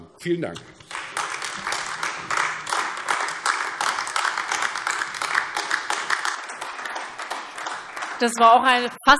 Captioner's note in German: Beifall AfD